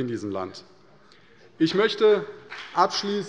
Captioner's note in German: Beifall bei der CDU und dem BÜNDNIS 90/DIE GRÜNEN